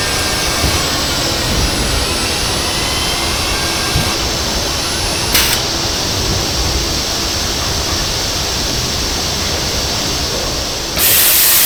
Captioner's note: screaming